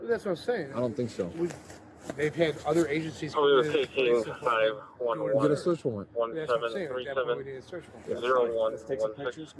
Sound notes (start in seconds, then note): 3.3 radio chatter